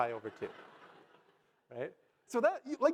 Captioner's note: audience laugh